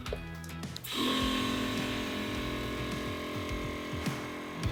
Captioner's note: air pump humming